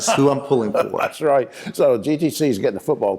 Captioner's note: laughs